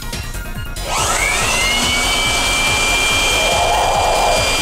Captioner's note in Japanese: ブロワーの音